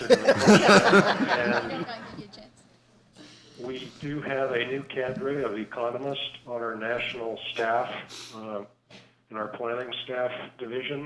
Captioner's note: laughter